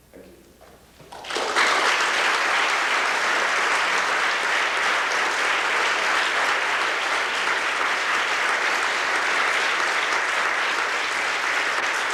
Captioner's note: applause